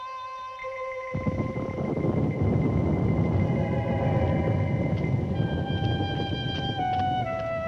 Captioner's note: thunder rumbles